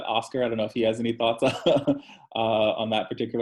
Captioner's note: chuckles